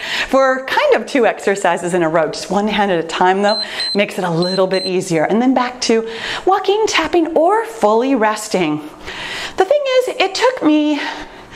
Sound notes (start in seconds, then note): 3.4 timer beeps